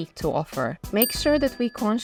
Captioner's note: bell dings